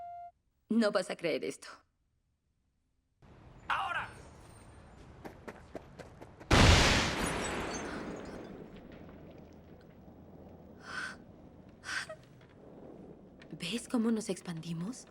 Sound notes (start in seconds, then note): 3.2 voiceover; 6.5 explosion